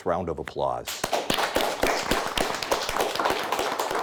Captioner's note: audience applauds